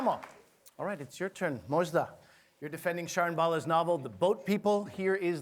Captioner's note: applause